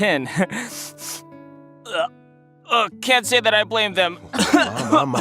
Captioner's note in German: schnüffel